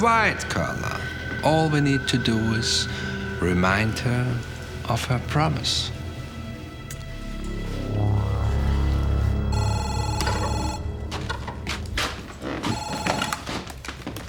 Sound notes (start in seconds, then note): 9.5 phone ringing